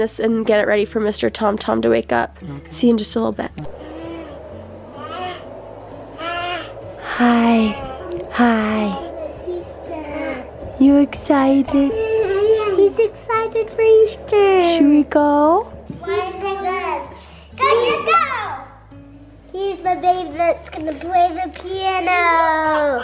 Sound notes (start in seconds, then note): 3.6 baby cooing; 11.7 baby cooing; 16.1 children chattering